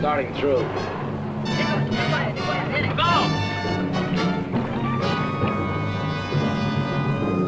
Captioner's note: men speaking in Spanish